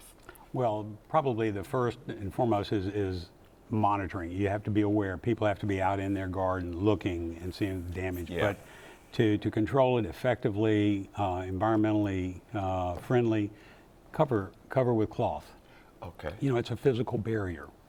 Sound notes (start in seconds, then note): none